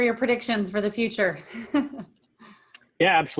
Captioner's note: giggles